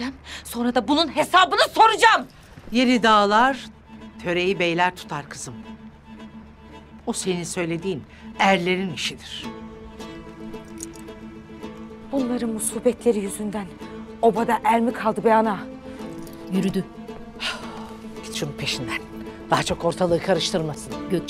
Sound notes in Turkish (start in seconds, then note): 17.4 Nefes sesi